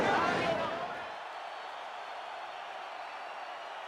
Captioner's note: spectators cheering